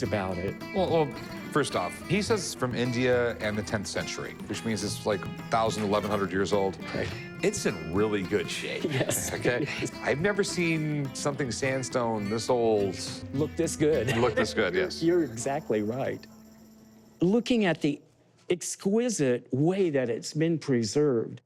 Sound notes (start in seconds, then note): 8.7 laughs